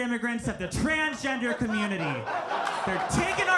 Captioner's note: audience laughing